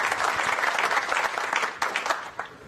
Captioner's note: applause